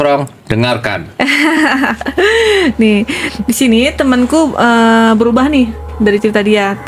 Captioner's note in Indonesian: tertawa